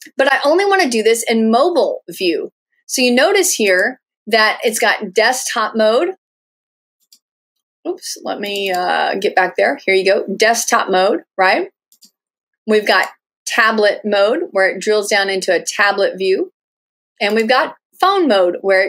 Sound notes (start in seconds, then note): 7.0 clicking; 11.9 clicking